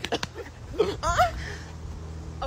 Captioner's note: coughing and choking sounds; anime girl moan